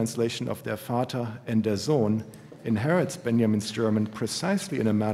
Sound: german

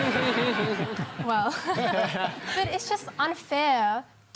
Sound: laughter; laughs

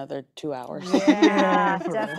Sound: group laughing

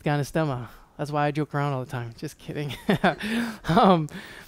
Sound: laughs

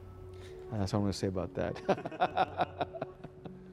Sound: laughs

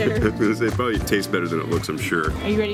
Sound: laughing

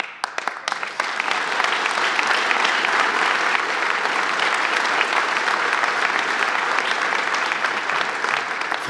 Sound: applause

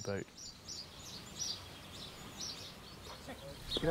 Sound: birds chirping

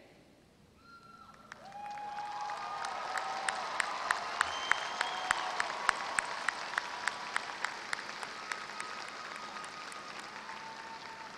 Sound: applause

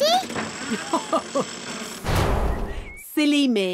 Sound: chuckles

